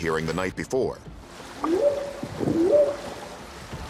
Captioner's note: whooping sound